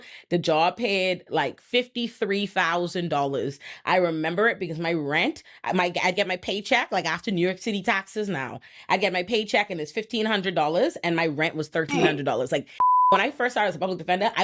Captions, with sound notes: the job paid like $53,000. I remember it because my rent, I get my paycheck, like after New York City taxes now, I get my paycheck and it's $1,500 and my rent was $1,300. Like (beep) When I first started as a public defender,